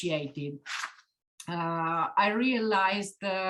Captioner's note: paper rustling